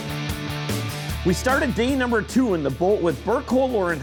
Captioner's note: voiceover